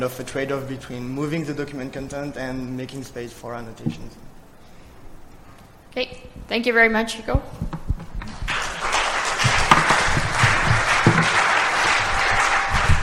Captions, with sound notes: of a trade-off between moving the document content and making space for annotations. OK. Thank you very, Hugo. [APPLAUSE]